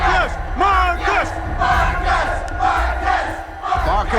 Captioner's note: crowd